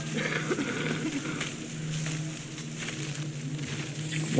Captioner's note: worker coughing